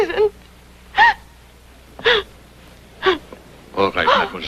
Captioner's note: crying